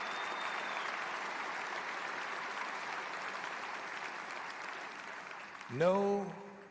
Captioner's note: applause